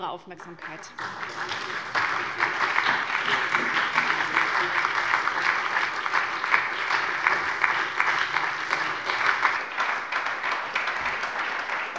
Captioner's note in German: Anhaltender Beifall bei der SPD